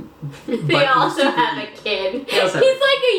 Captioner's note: laughing